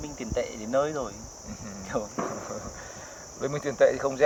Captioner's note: chuckles